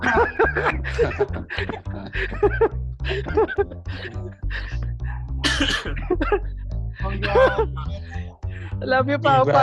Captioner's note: laughing